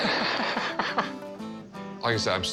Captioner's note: laughing